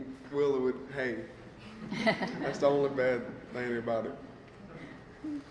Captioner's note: laughter